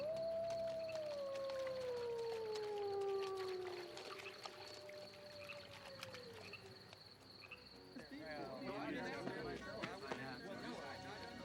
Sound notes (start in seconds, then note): 0.0 wolf howls; 3.5 crickets chirping; 8.0 men chattering